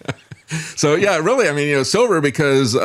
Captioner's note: laughs